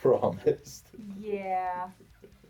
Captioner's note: laughs